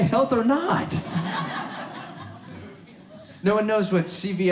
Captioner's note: audience laughs